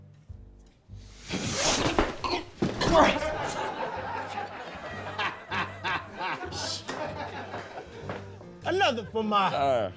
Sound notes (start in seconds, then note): 2.0 grunts; 3.2 laughter